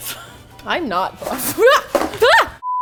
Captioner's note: trips and screams